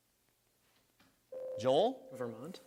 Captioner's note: buzzer sounds